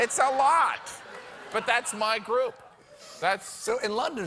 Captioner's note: laughter